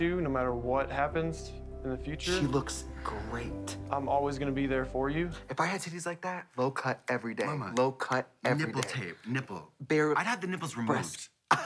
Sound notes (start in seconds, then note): 7.7 snaps